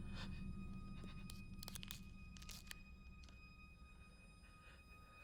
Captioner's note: tape ripping